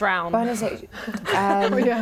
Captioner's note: laughs